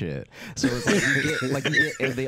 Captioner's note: both laughing